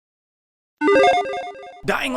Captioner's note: logo beeping